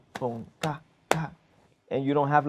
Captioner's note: taps thrice